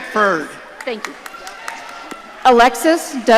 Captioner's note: audience cheering